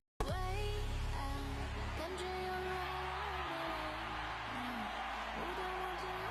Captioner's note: crowd Cheering